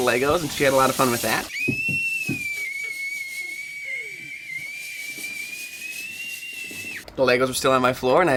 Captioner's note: gleeful screaming